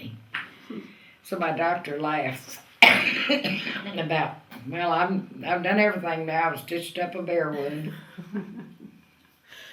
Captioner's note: laughter